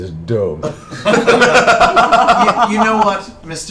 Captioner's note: laughter